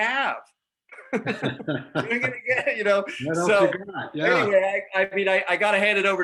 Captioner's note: laughter